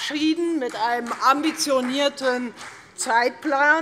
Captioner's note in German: Demonstrativer Beifall